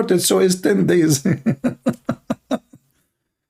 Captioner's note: Ketawa